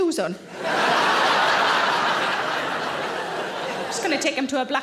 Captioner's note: audience laughing